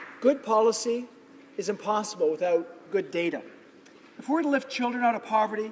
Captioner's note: applause